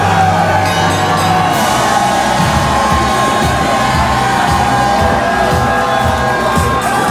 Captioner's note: applause